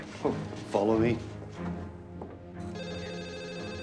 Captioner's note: footstep